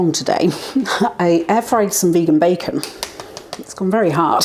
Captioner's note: tap tap tap